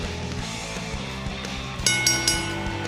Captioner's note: bell ringing